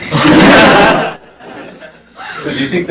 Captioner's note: chuckling